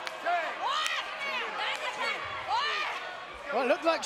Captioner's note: gloating excitedly